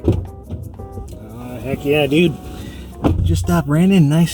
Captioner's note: car door opens; door closes